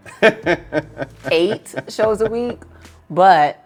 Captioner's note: laughs